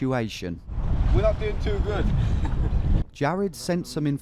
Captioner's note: laughs